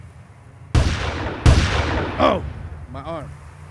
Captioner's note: gunshots booming